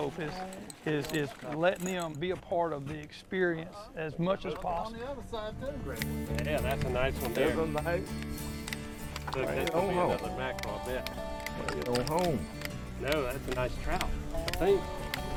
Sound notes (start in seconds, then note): 8.7 upbeat country music; 10.6 men chatting